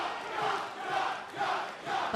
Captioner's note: fans chanting